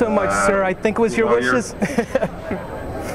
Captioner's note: laughing